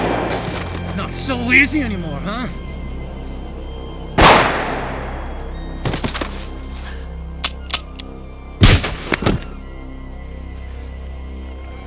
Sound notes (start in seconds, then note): 0.0 gun blasting; 4.5 gun blasting and clicking; 8.7 foot thudding